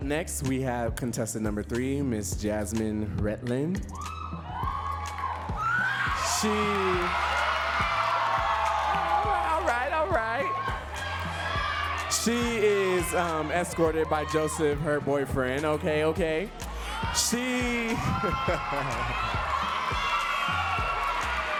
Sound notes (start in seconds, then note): 7.5 audience cheering; 21.4 audience cheers loudly